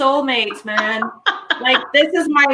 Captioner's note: laughing